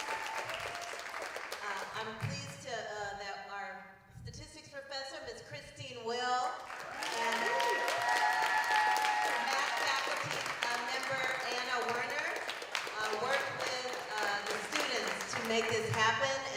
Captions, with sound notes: And I'm pleased that our statistics professor Miss Christine Will-- [APPLAUSE] --math faculty member Anna Warner worked with the students to make this happen.